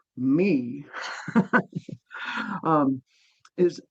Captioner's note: laughing